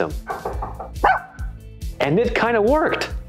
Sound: knocking on door; dog barking

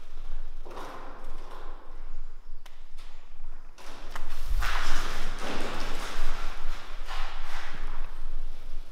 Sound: far away metal clanging sounds; echo of birds flapping wings inside building

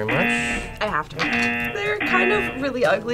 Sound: buzzer rings

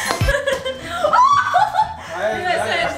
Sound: girl screams

